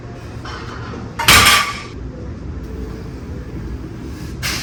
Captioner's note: weight clanks